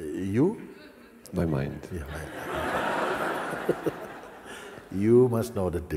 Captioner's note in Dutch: gelach